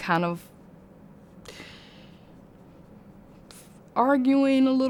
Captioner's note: thinking pause